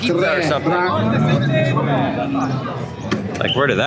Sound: official speaking in Italian

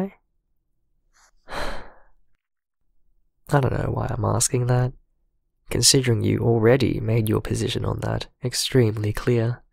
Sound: sighs

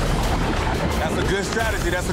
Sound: urgent music; water rushing

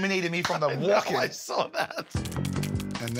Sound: laughs

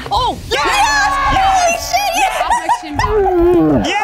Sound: cheering

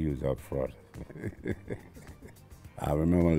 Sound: laughs

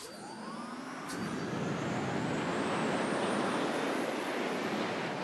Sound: rocket whooshing

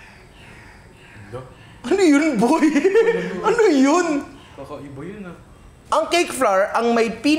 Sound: laughs

